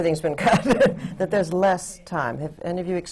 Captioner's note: laughter